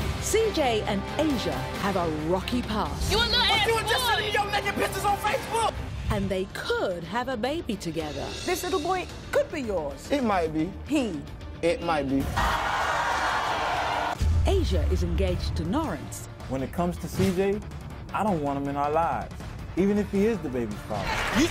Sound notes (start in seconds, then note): 12.3 audience yelling